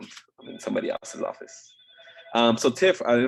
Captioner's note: phone ringing